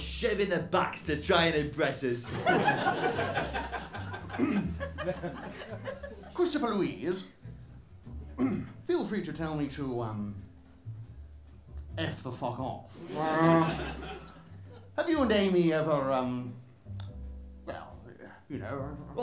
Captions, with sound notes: Always shaving their backs to try and impress us. (LAUGHTER) (CEDRIC CLEARS THROAT) Christopher-Louise... Feel free to tell me to, um... ..eff the fuck off... (CEDRIC BRAYS) Have you and Amy ever, um... Well, you know...